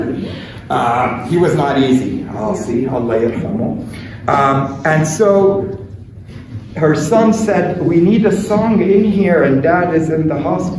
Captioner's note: speaking arabic